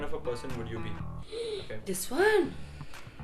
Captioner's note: gasping